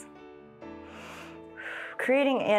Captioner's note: inhales and exhales